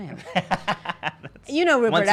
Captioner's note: laughing